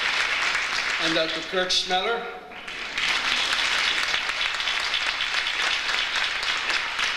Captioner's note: audience applauds